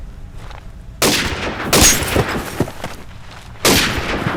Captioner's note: gun firing; glass cracks; gun fires